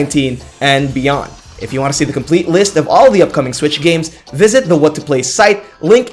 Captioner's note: breathe